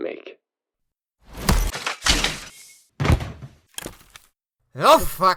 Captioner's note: powerhooves dicharage, head splat, body falling over